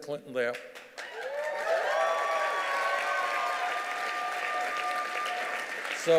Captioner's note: cheers and applause